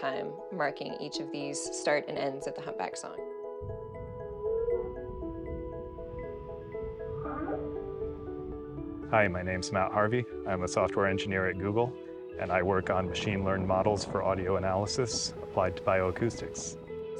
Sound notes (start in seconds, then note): 3.6 whale bellows; 7.0 whale chirps